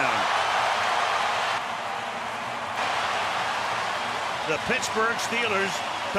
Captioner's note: cheering